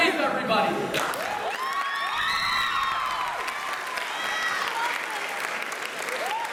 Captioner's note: cheers